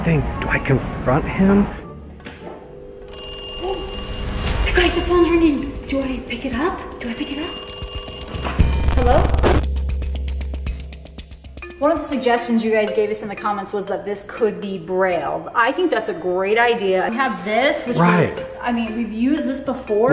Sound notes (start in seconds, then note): 2.8 telephone ringing; 7.5 phone rings